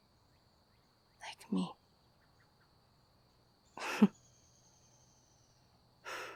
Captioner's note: quiet, tearful laughs